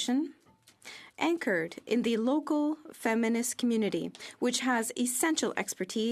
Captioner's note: speaking French